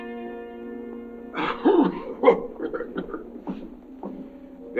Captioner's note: King coughing